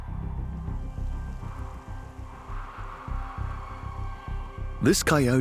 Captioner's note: wind howls